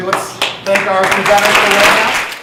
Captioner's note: audience applause